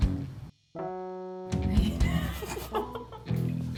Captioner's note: laughing